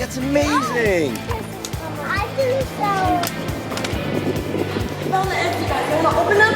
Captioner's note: children mumble